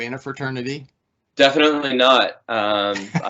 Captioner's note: laughing